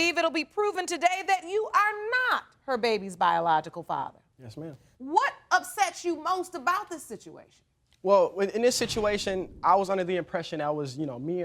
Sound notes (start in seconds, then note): none